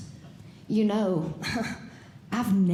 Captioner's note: laughs